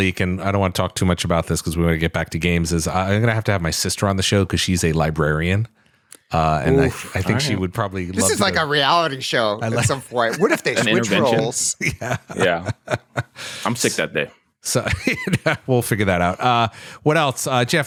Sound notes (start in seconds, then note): 12.3 laughs